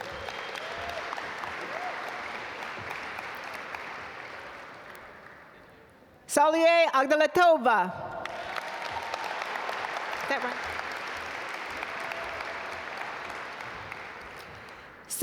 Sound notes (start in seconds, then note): 0.0 audience applaud; 8.1 audience applaud